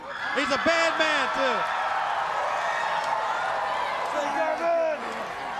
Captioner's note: crowd cheering